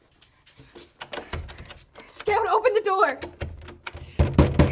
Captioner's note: footsteps approaching